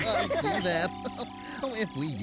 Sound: laughs

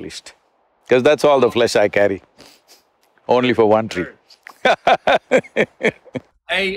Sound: laughs

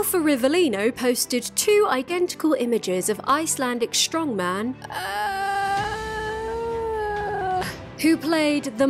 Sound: groans painfully

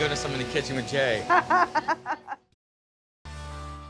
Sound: laughs

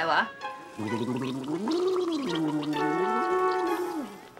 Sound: gargling

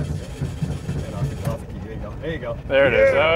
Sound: engine starts

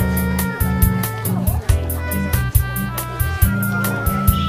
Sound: indistinct chattering

